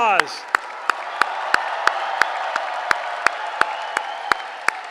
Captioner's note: applause